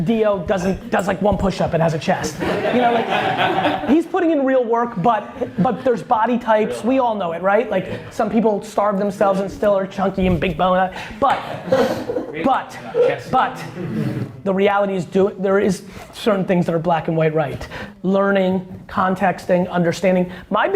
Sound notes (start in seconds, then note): 2.3 laughs